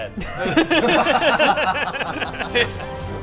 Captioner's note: laughs